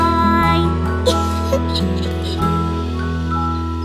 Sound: laughs

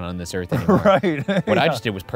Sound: laughing

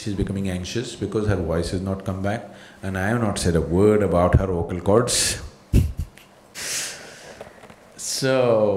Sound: laughs

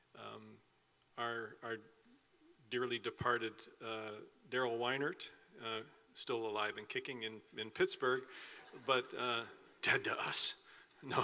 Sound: laughing

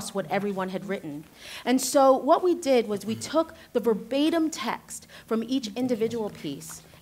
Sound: others start whispering

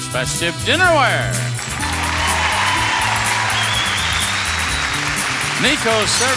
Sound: audience applauding

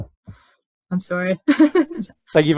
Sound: laughs

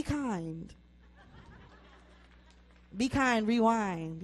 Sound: audience laughs

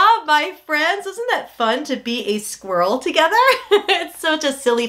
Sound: laughs

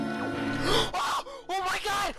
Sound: Girtana screams

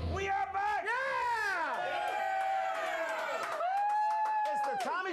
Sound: audience cheering

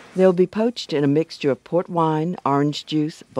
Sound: voiceover

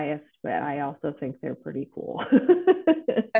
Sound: laughs

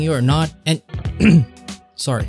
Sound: clears throat

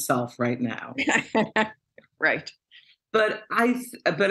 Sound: laughter

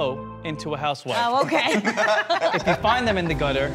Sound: group laughs

